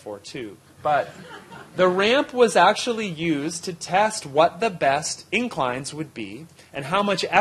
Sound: laughter

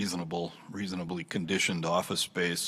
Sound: none

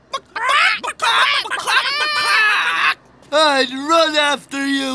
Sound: clucking

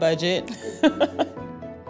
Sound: laughs

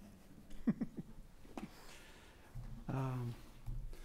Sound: chuckles

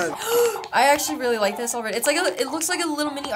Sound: gasps

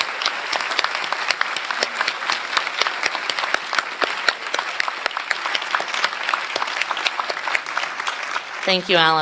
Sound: applause

